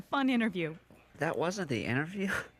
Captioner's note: giggling